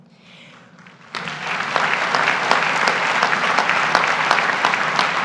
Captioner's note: graduates applaud